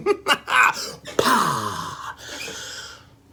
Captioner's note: laughs